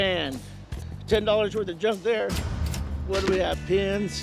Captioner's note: cash register dings